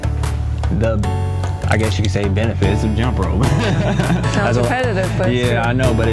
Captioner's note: laughs